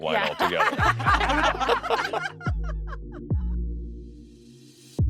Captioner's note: laughing